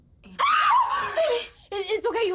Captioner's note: screams